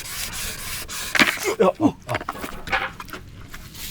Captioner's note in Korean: 부서짐